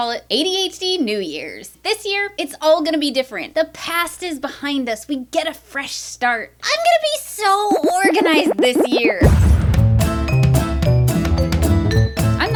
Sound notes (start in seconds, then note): 9.2 explosion; 9.8 intro Music